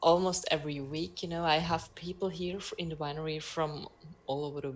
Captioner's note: none